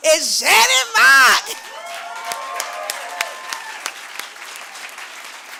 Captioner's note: cheering